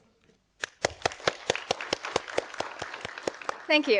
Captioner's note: audience applauding